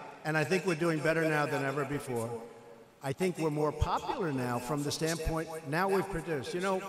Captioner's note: none